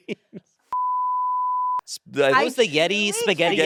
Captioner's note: beep